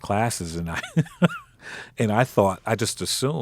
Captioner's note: laughing